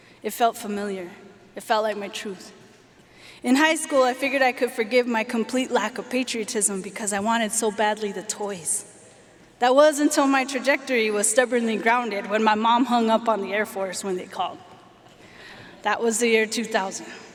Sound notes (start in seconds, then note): none